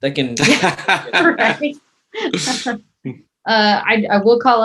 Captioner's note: laughs